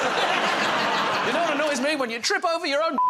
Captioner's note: laughter